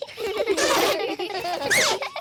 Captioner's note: all giggling